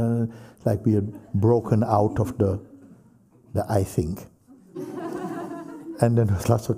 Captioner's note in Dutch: gelach